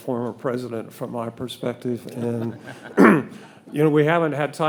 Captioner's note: all laughing